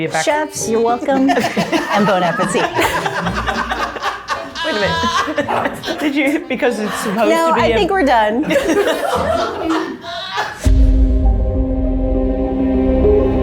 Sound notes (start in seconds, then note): 2.9 group laughing; 8.6 group laughing; 10.6 brooding music